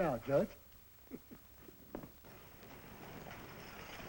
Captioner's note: chuckles